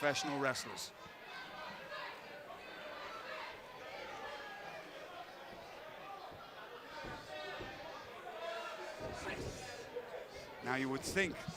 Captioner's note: crowd chatter